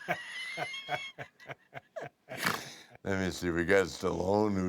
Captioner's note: laugh